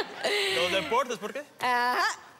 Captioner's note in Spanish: Risas